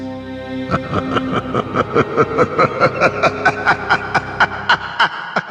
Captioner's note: laughs